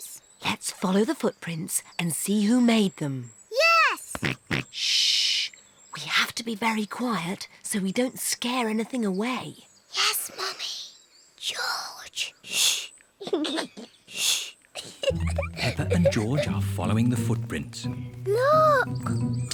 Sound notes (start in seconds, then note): 4.1 snorts; 9.8 whispers; 14.7 giggles